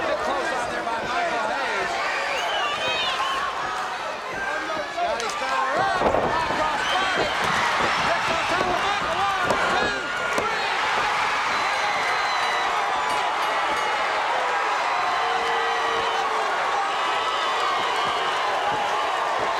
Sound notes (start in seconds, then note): 2.4 audience cheers; 13.1 bell rings; 13.6 audience cheers